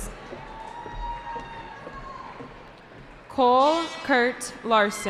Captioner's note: cheering